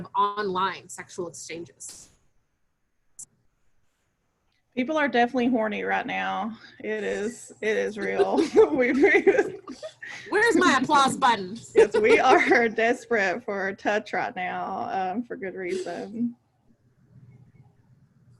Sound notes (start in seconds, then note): 7.9 laughs